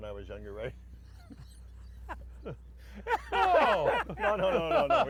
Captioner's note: all laugh